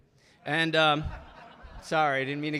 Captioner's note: audience laughing